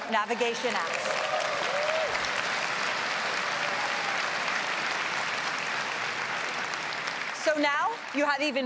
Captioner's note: applause